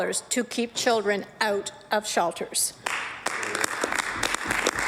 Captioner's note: applause